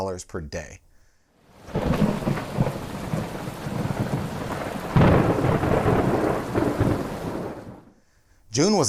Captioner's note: thunder